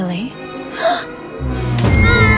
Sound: gasp

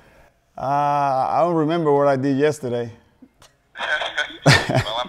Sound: laughing

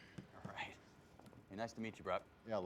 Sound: racket tapping

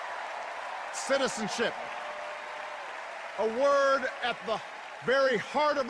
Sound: cheers and applause

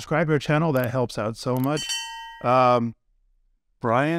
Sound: bell ringing

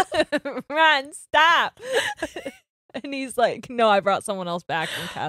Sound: both laughing

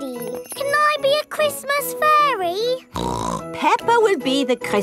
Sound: snorts

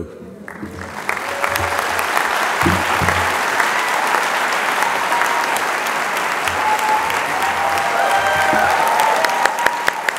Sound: applause

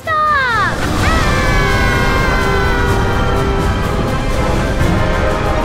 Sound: rocket whooshing; dramatic music

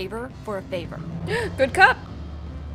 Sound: gasps

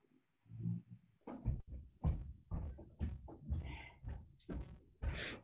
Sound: footsteps falling

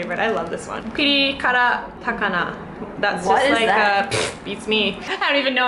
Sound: pshht

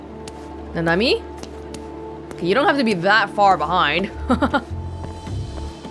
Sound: chuckles

